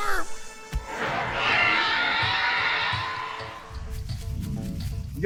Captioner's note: angry roar